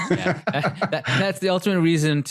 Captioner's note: laughing